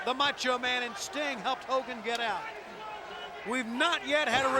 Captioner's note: crowd clamoring